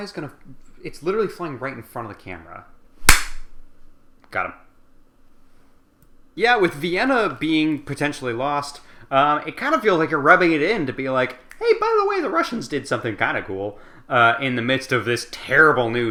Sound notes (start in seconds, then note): 3.0 clap